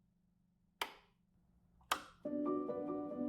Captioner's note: dial clicking; switch clicking; soft music